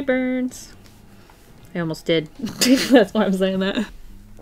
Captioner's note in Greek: Γέλια